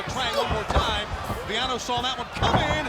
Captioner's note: footsteps plodding